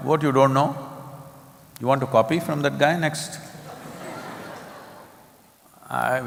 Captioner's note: laughter